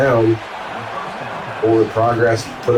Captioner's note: crowd Noises